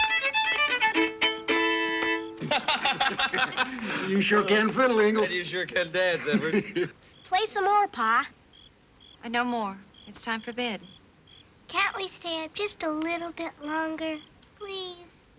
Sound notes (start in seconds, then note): 2.4 laughter